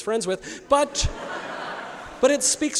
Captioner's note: audience laughs